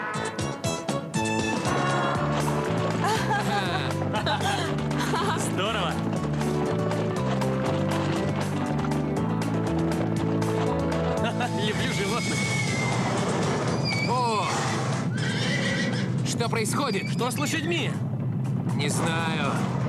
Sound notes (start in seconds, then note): 11.7 rumbling